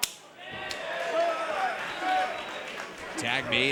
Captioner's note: crowd cheers